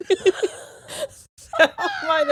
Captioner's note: both laughing